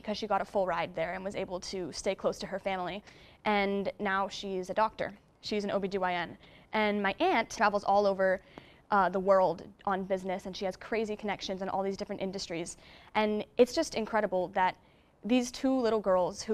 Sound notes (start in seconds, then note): none